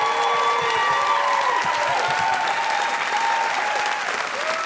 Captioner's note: crowd cheering